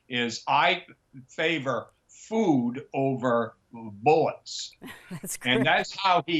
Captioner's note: laughs